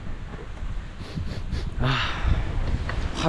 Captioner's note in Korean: 킁킁킁